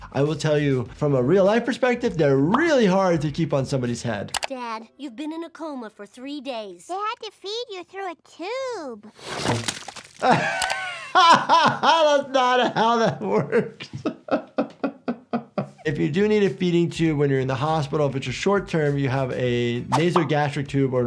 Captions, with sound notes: I will tell you from a real life perspective, they're really hard to keep on somebody's head. - Dad, you've been in a coma for three days. - They had to feed you through a tube. (turkey plopping) - (laughing) That's not how that works. (laughing) If you do need a feeding tube when you're in the hospital, if it's a short term, you have a nasogastric tube